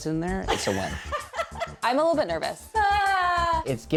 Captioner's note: laughing